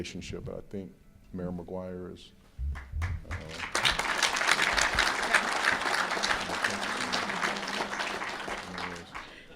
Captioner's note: applause